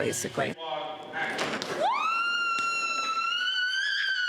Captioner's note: woman screams